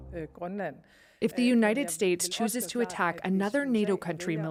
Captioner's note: speaking alternate language